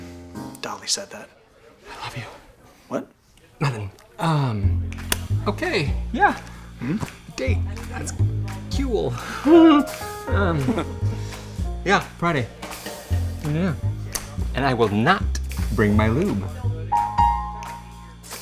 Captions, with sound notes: Dolly said that. I love you. -What? -Nothin'. Um... Okay, yeah. Mm? A date. That's... kewl. [laughing] Yeah. Friday. Yeah. And I will not bring my lube.